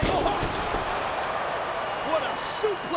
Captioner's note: audience cheering